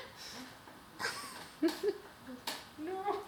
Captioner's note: laugs again